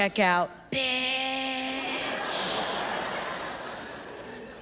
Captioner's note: audience laughs